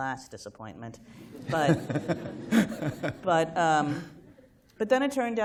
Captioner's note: laughter